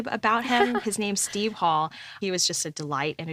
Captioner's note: host laughs